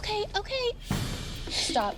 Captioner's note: sobs